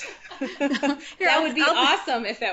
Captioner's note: laughing